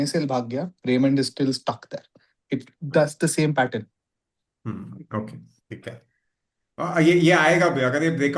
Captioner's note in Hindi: गला साफ़ करने की आवाज़